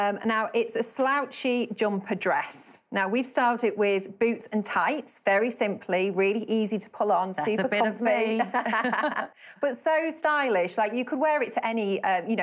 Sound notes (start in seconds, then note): 7.4 laughing